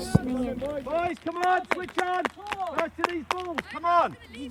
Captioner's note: loud chatter